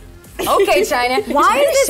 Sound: China laughs

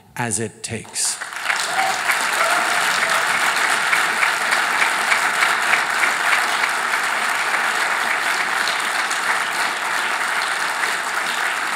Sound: applause

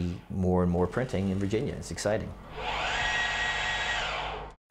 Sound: machine whirring

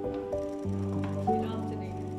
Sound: soft music continues; camera clicking

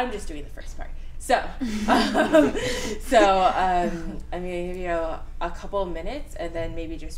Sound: laughter

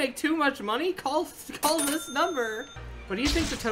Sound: cash register

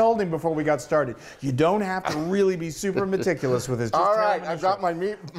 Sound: laugh

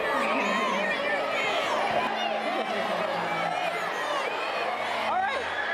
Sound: kids yelling

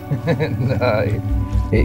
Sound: laughing

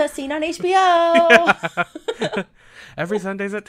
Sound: laughs

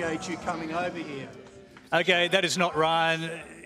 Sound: audience groans

